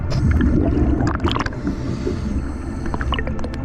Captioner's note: water rushing; audible breathing